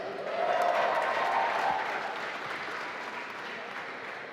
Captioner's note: applause